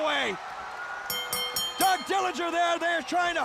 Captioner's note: bell ringing